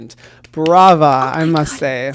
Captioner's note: claps hands